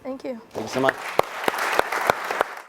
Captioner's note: applause